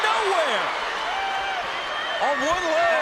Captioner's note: crowd cheers and whistles